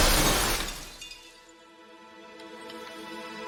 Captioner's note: glass smashes inside